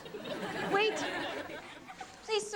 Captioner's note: audience laughs